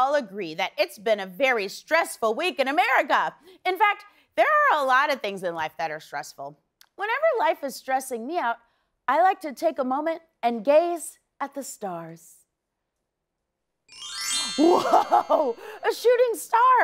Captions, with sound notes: that it's been a very stressful week in America. In fact, there are a lot of things in life that are stressful. Whenever life is stressing me out, I like to take a moment and gaze at the stars. [chimes] Whoa! A shooting star!